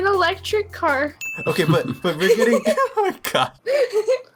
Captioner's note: laughter